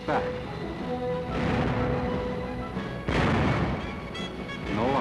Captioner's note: booming